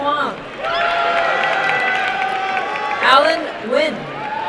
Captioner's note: crowd cheering and applauding